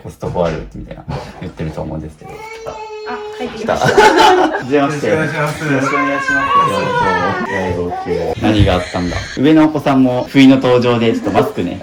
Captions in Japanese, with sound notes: あ、書いてきました。まし[笑い] よろしくお願いします。 よろしくお願いします。 何があったんだ?上のお子さんも不の登場でちょっとマスクね、後ほどしてもらうんですけどポップの登場で初めまして久しぶです。